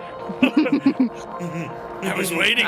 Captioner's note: all laughing